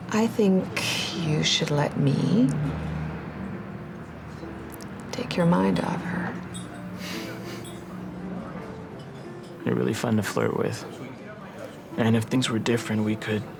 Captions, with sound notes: I think you should let me take your mind off her. (LAUGHS SOFTLY) You're really fun to flirt with. And if things were different,